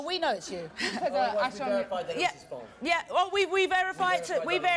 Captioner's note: male voice offstage